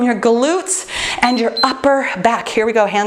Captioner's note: timer beeps